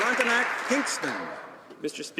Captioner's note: some Applause